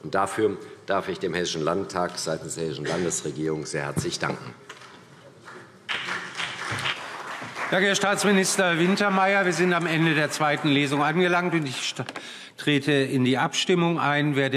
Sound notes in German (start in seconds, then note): 5.4 Beifall CDU und BÜNDNIS 90/DIE GRÜNEN